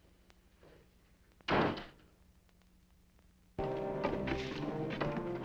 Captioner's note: door slamming; dramatic music